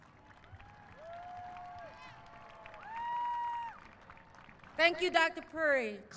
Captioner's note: applause